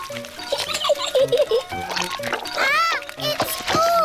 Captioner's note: giggles